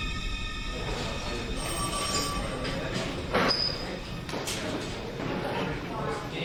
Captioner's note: phones ringing